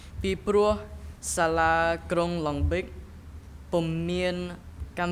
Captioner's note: speaking in a foreign language